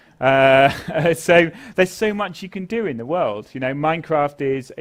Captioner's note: laugh